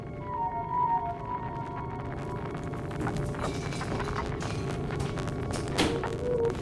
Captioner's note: creepy music; ominous crackling